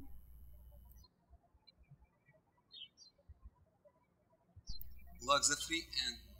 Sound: birds chirping

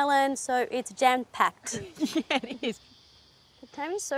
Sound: laughs

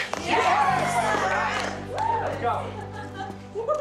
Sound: group cheers

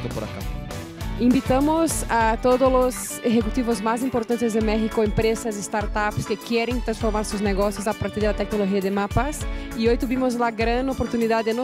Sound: speaking spanish

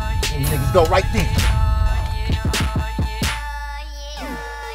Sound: none

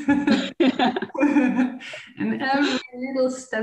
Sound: laughing

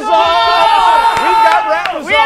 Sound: cheering

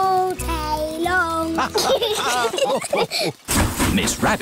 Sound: laughter

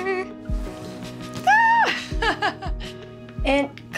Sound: Colleen laughs

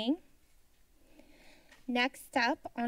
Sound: silence

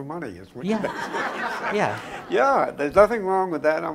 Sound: laughing

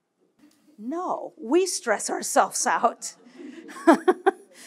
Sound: laughs

